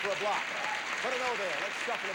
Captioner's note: audience applauding